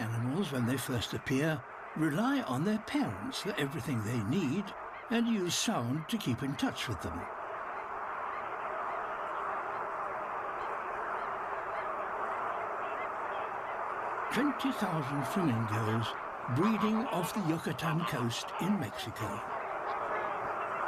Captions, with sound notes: Many animals, when they first appear, rely on their parents for everything they need and use sound to keep in touch with them. (CROAKING AND HONKING) 20,00 flamingos breeding off the Yucatan coast in Mexico.